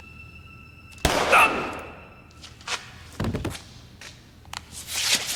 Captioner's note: gun firing; footsteps thumping